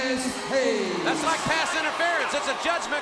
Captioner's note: crowd cheering